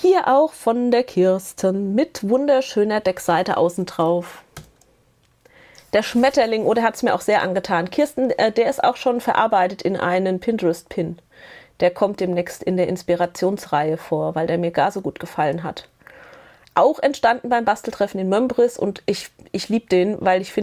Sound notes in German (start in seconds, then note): none